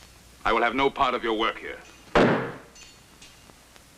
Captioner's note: thudding